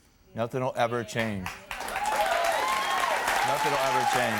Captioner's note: audience cheers